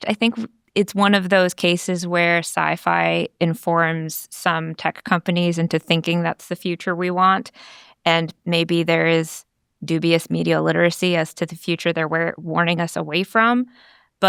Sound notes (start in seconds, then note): none